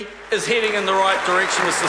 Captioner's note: applause